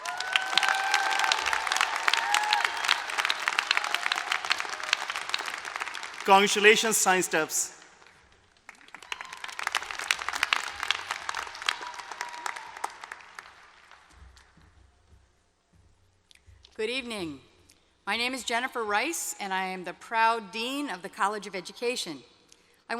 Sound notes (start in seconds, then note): 0.0 cheering and applause; 8.8 applause